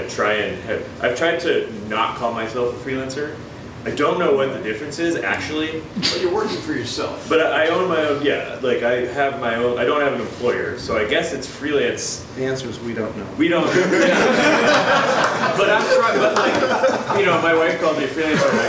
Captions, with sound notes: I've tried to not call myself a freelancer. I don't know what the difference is, actually. - But you're working for yourself? - But I own my own, yeah, I have my own, I don't have an employer so I guess it's freelance. - The answer is, We don't know. (audience laughs) - My wife calls me a freelance